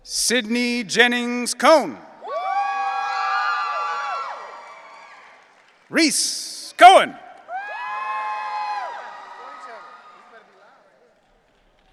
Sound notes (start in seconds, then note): 2.2 audience cheering